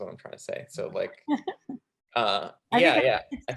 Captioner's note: chuckling